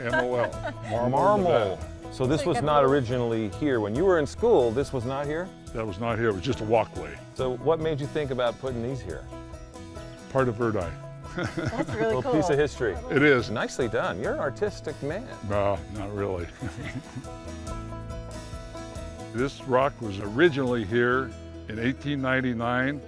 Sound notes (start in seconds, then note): 16.4 chuckles